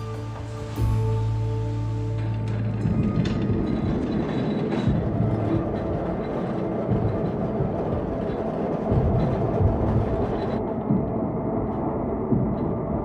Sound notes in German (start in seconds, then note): 2.7 Klappern, Rattern